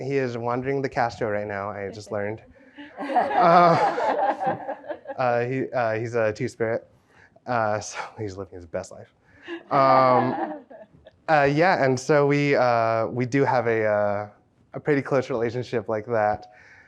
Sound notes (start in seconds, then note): 2.8 participants laugh; 9.5 participants chuckling